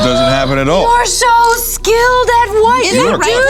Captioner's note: gasps